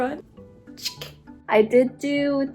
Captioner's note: soda tab SFX